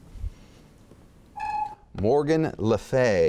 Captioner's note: chimes